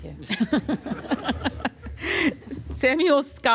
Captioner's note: laughter